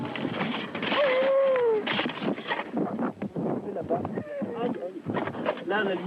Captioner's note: baby crying